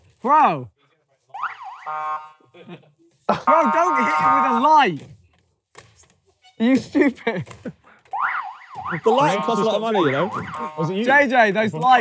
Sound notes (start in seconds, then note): 5.2 laughing